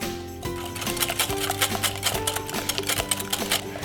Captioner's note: whisking